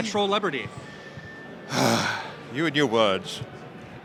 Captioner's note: sighs